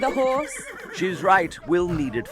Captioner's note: horse neighs